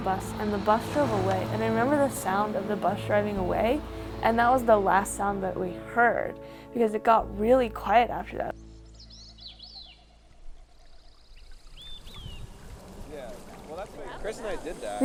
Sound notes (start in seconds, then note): 8.0 birds chirping; 12.9 indistinct chatter